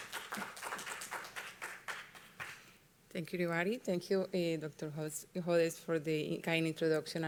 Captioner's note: applause